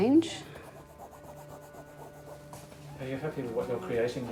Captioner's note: brush Scratching